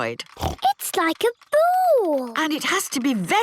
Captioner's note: snorts